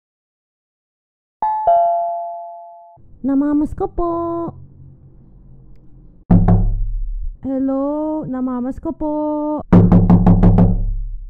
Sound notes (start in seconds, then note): 1.4 doorbell; 6.3 knocking; 9.7 aggressive knocking